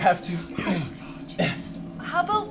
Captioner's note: gasps